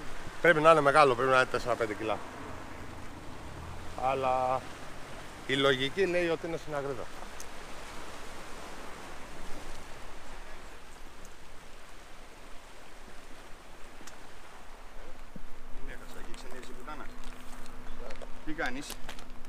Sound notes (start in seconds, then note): 6.8 sea waves